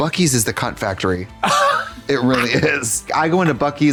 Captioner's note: Katya creaks